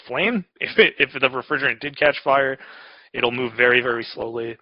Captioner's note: laughs